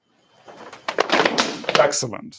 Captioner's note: thudding